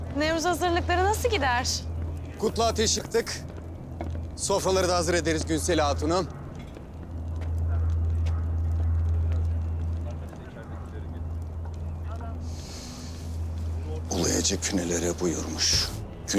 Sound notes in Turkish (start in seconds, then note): 6.7 Mırıltı ve Adım Sesleri; 12.4 Nefes alır